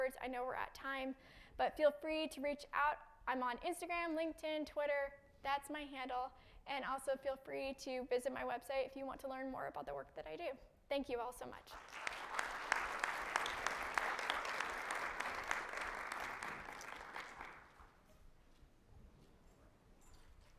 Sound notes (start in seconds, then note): 11.7 audience applauding